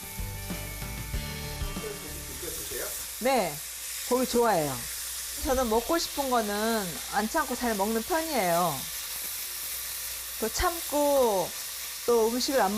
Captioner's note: voiceover